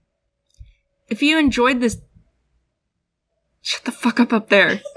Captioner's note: stomp stomp; laugh